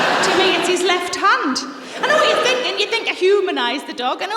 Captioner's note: laughter